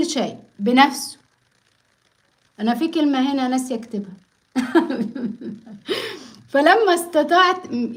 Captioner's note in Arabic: ضحك